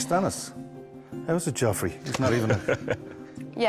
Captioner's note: laughing